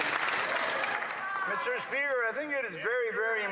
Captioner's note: some Applause